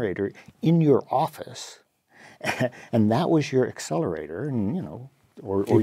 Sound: laugh

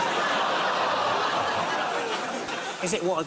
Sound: audience groans; audience laughs

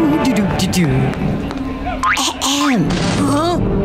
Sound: throat clearing

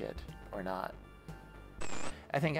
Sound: static

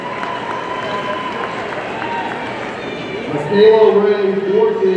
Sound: audience cheering

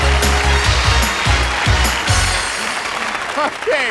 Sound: applause

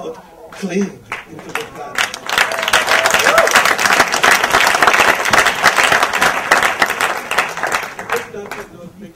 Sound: audience applause and cheer

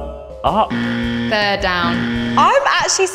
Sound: incorrect buzzer

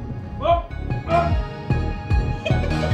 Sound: giggles

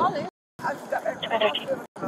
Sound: radio chatter

